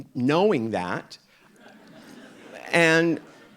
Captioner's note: audience laughing